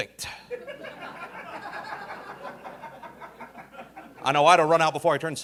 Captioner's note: audience laughing